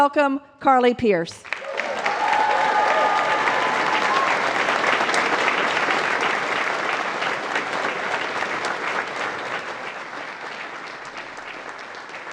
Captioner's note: applause